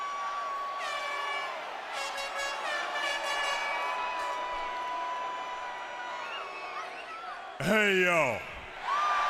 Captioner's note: crowd chatter